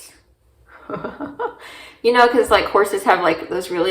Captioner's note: laughs